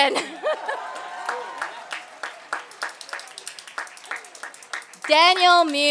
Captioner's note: applause